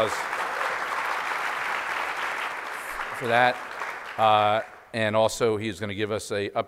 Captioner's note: applause